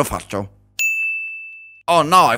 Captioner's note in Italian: ding